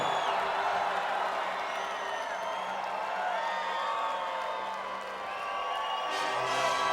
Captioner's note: crowd cheering; triumphant music